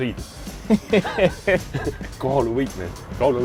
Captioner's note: both laugh